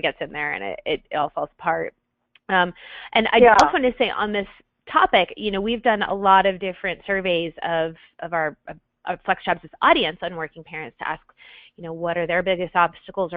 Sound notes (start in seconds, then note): 1.8 voiceover